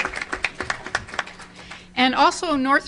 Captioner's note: audience applause